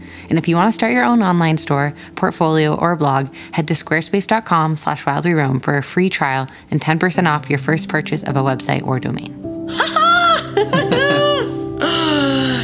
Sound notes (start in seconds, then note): 9.8 laughing